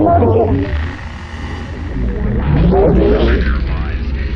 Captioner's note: radio interference